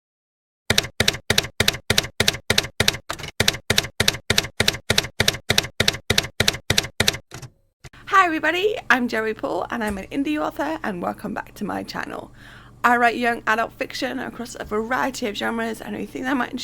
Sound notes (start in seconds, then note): 0.7 typewriter keys clacking